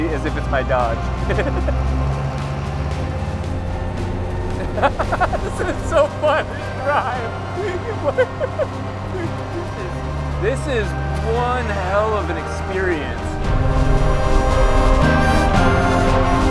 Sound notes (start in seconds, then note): 1.4 chuckling; 2.2 truck engine roaring; 4.7 chuckling; 7.7 chuckling; 13.6 exciting music